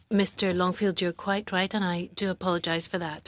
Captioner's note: speaking French